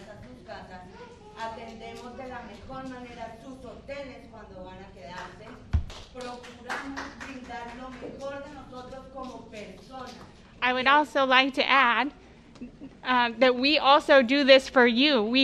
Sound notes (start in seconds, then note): 10.6 applause